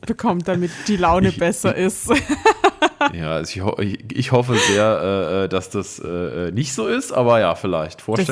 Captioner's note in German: gelächter